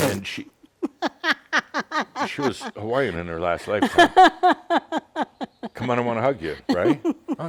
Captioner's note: laughs; continues laughing